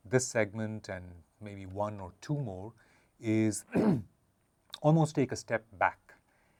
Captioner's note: cough